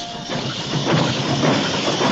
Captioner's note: whistles